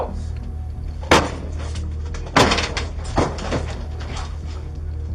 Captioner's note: kicks Door